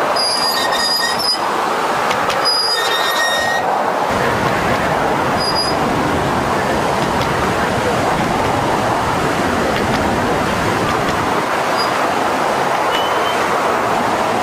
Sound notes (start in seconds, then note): 0.2 metal squealing; 4.1 water rushing loudly; 11.0 water rushing loudly